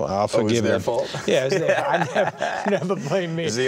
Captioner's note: laughing